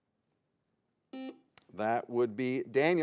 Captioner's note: buzzer beeps